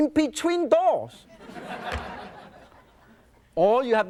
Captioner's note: audience laughs